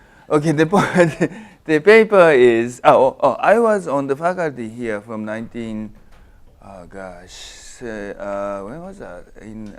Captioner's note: laugh